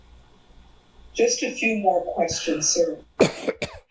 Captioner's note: coughing